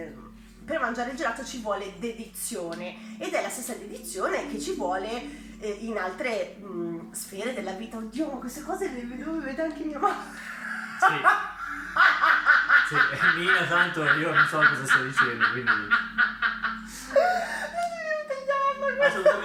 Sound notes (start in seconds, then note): 10.4 evil laugh